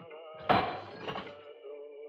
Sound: glass Shatters

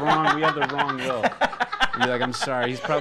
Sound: hosts laugh

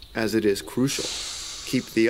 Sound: alligator hisses

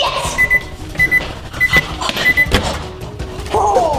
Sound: microwave

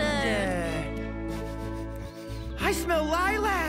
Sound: inhaling deeply

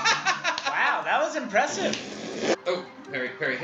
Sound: blows raspberry

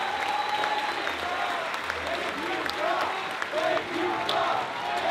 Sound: crowd chants

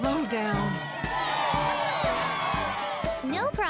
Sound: cheering

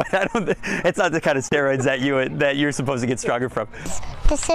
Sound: laughter

